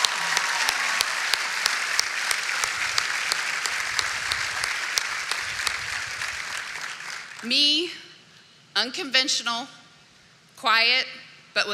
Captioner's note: cheering and applause